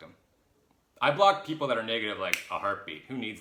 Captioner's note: snaps